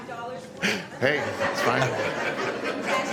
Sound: laughter

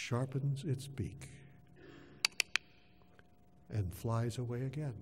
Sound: click, click, click

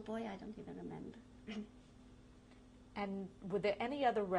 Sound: clears throat

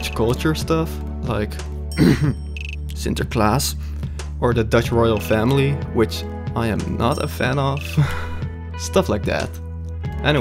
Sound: coughs

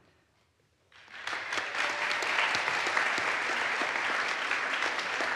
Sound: audience applauds

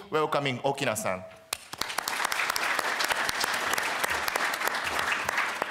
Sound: applause

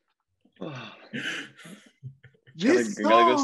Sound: everyone laughing lightly

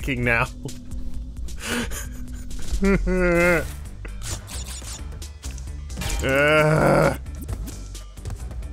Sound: audible internal screaming

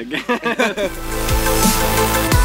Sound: laughter

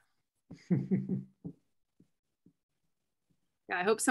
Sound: laughter

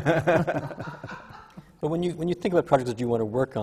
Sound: laughter

